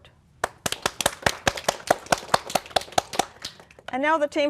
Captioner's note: applause